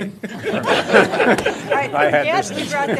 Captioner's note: laughter